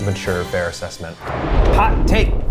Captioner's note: animated explosion booming